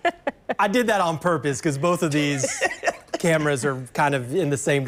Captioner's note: laughter